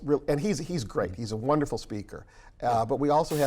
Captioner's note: static